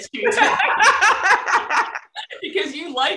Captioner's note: laughter